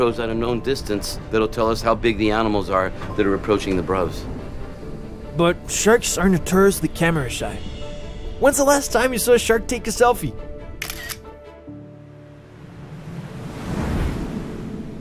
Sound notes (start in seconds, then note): 10.8 shutter clicks